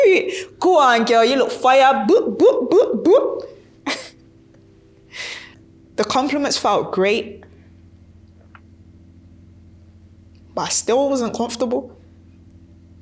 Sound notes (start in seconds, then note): 3.8 laughs